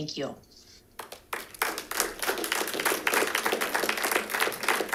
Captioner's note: audience clapping